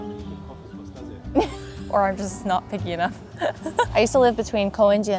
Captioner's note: laughs